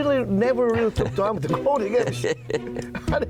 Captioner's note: laughing